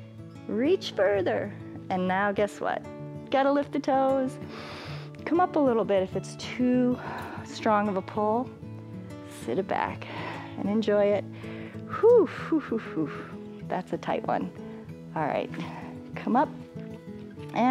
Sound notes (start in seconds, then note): 4.4 inhales